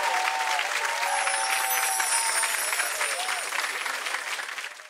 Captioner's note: audience cheering; chiming; audience cheering; chiming